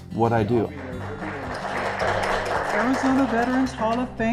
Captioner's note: attendees applauding